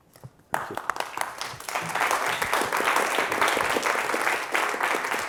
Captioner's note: applause